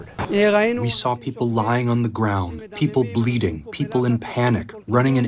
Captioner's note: through translator